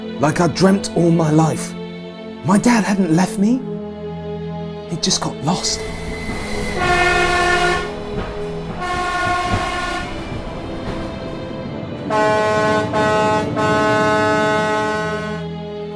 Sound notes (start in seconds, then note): 5.6 train whistle blaring; 6.5 train screeches; 12.0 horn honking